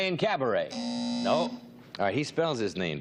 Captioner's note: buzzer